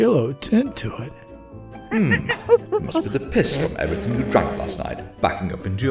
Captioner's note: ape noises